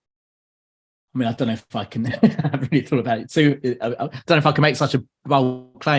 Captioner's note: laughs